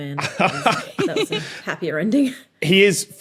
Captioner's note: laugh